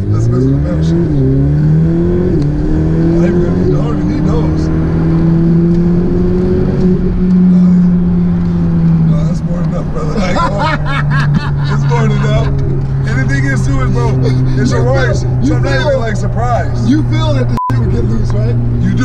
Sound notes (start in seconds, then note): 0.0 engine roaring; 0.1 murmurs; 1.1 engine roaring; 3.0 murmurs; 10.0 laughing; 17.5 beeps